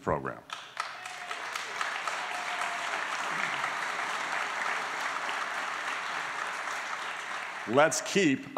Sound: applause

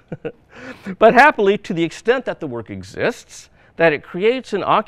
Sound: chuckles

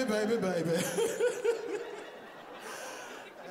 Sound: laughs

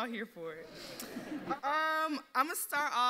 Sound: audience laughs

